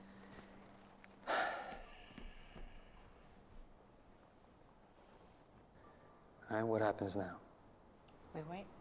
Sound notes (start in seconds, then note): 1.2 Marcus sighs